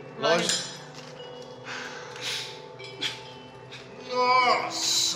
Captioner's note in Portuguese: Risada